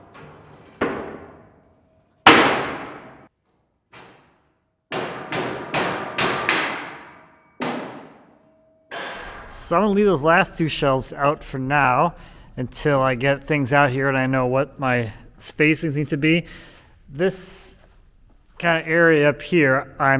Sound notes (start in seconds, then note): 0.2 wood thudding; 4.9 hammer thudding